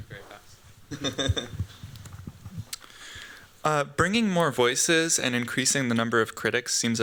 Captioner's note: giggles